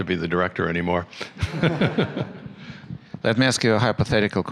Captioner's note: laughter